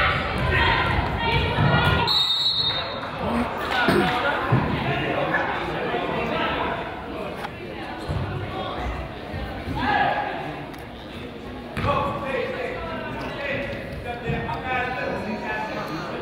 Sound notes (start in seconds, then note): 2.0 whistle blows; 3.8 man coughs